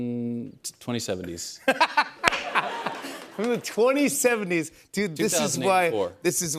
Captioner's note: laughs